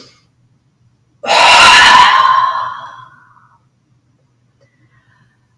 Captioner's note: exhale